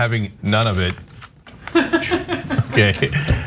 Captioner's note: laugh